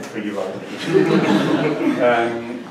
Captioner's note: laughter